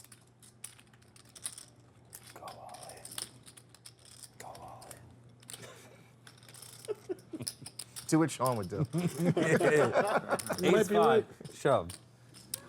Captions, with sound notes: - (whispering) Go all in. Go all in - Do what Shaun would do. (laughter) - Ace, 5. Shove.